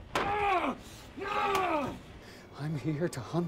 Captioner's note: grunting